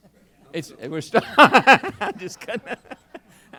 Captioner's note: laughs